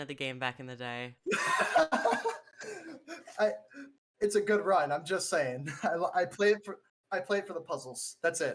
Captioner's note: laughs